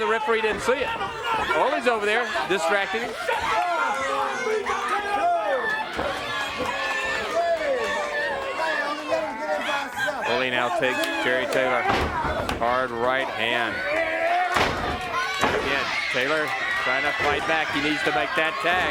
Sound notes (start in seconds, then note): 3.8 crowd chatter